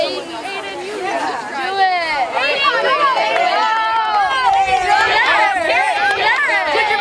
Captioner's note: crowd cheering